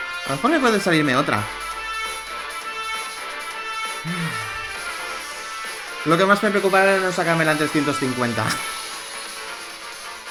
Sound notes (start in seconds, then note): 4.0 sigh